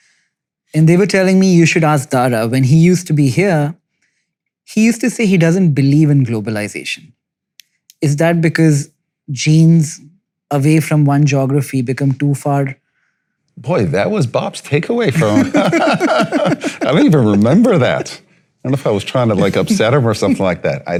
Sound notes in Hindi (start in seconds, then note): 15.1 दोनों हँसते हैं